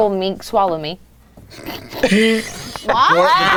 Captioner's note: snorts; everyone laughing